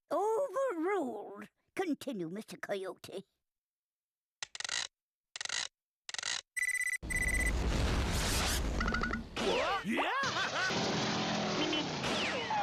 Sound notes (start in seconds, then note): 4.4 whirring; 6.5 beeping